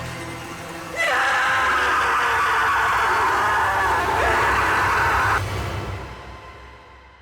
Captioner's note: screaming